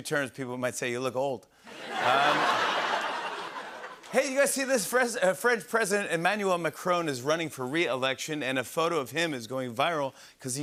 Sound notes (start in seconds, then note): 1.7 laughter